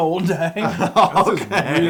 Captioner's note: laugh